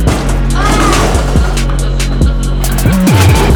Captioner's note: screams; dramatic music